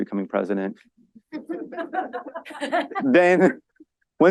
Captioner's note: laughter